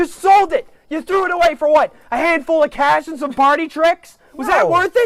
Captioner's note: porter scoffs